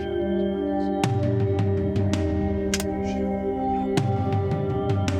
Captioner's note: whispering continues